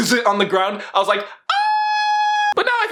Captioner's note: boyish squealing